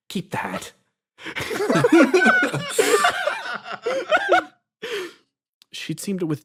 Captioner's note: laughs